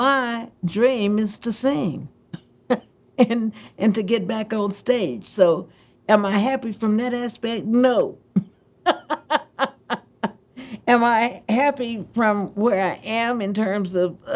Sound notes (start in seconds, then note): 8.9 laughs